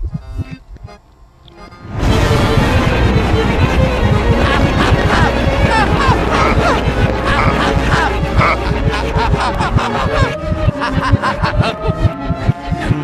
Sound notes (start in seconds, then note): 4.7 evil laugh; 6.2 evil laugh + stressed laugh; 9.1 evil laugh